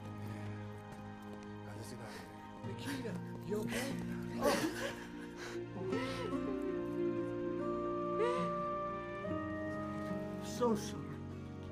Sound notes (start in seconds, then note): 1.7 Roland speaking in Spanish; 5.7 Nikita sobbing